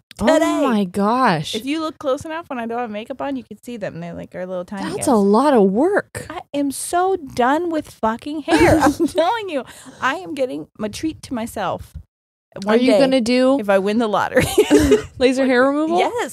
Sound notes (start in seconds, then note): 8.5 laughing; 14.4 both laughing